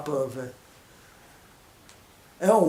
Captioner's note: pause